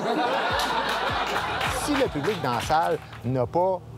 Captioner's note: laughs